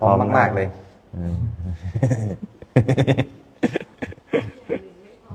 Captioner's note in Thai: เสียงหัวเราะ